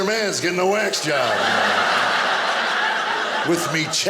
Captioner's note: audience laughing